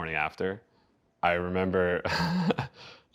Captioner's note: laughing